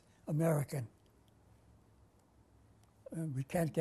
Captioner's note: pauses for 3 seconds